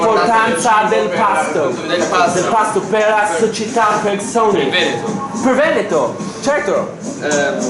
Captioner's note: intense italian communication